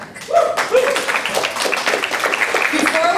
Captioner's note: applause